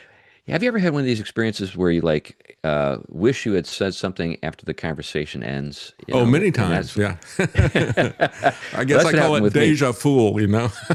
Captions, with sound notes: Have you ever had one of these experiences where you wish you had said something after the conversation ends? Oh many times, yeah. (Laughing) I guess I call it deja fool, you know.